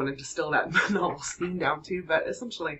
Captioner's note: laughter